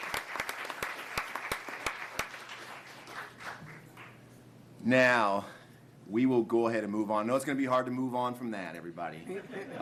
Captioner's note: applause